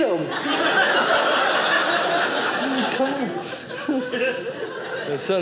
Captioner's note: audience laughing